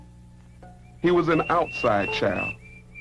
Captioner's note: bird chirping